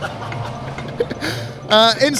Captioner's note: laughing